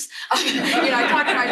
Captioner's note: laughter